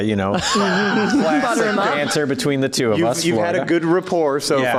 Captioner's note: laughs